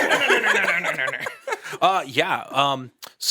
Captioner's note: all laugh